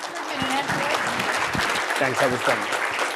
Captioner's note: audience applauding